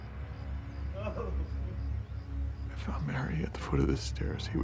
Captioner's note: Leo sobbing